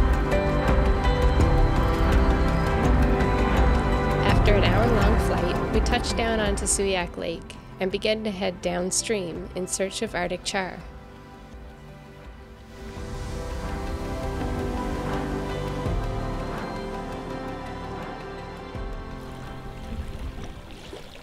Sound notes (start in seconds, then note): 11.8 bright music; 14.5 water whirling; 17.3 wind whooshing